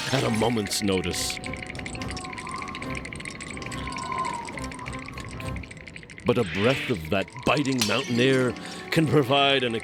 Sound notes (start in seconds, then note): 2.1 wind whistling